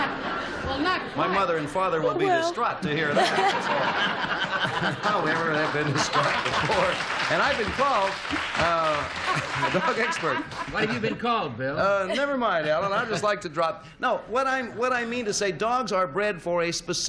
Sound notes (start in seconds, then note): 5.2 laughter